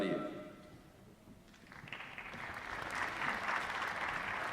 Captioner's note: applause